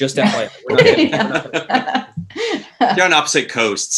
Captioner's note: all laughing